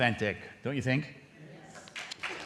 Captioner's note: applause